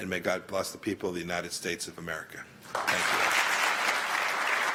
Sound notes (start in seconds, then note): 2.6 applause